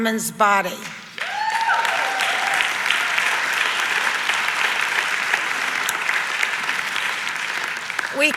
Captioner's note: audience applauds